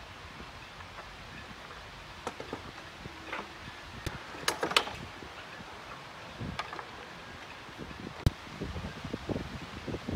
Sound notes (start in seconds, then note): 4.4 clattering